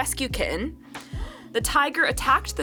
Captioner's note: gasps